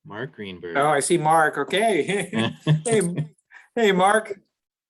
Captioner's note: laughs